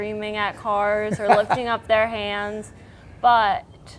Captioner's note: narrator laughing